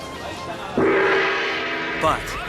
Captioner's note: gong banging